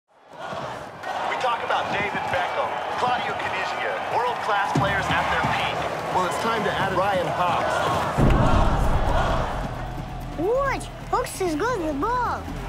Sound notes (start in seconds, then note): 8.1 crowd cheering; 10.1 russian Accent